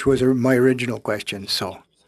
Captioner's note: speaking French